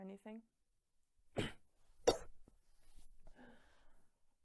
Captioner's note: coughing